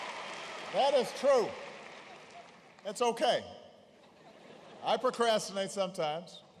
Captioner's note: laughter; laughter